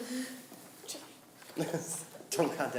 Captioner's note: laughing